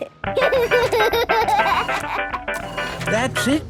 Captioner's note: giggling; giggles, snorts; music fades